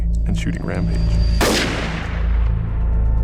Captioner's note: gunshot fires